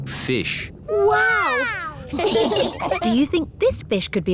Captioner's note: laughing